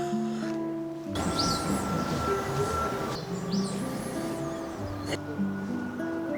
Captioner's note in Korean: 잠시 바람과 새소리를 느껴봅니다